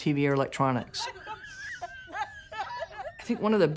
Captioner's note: laughter